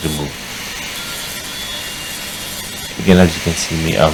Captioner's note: cutting disc buzzing